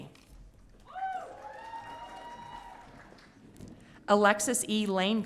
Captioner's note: audience cheering